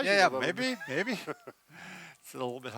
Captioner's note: laughs